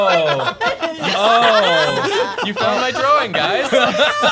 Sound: laughter

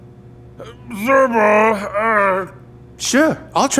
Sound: speaking in foreign language

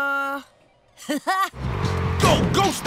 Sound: laughing

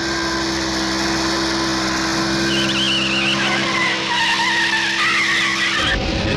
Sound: tires Screeching

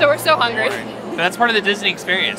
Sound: laughs

